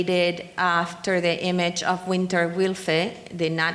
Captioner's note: speaking in foreign language